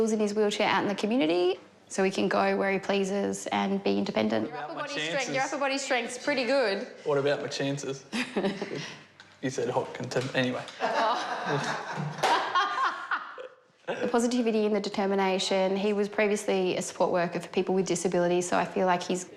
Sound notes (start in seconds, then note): 8.2 chuckles softly; 10.7 laughter; 14.2 guffaws